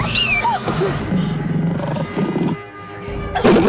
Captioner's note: Screams